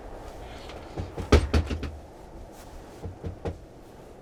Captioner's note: knocking on door